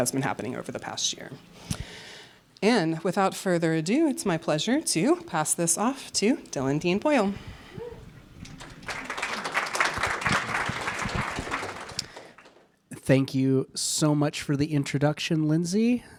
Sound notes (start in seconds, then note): 7.8 audience applauding